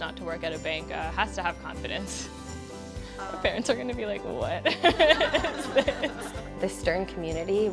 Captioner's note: laughs